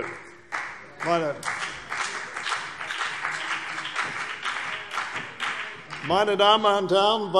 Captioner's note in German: Beifall CDU und vereinzelt BÜNDNIS 90/DIE GRÜNEN